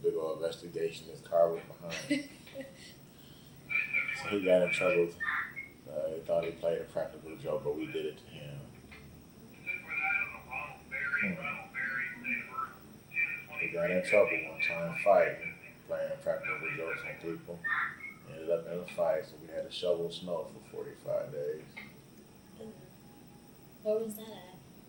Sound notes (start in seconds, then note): 1.8 laughs; 8.9 radio in the background